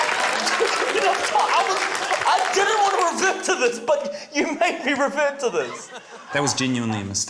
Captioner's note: laughs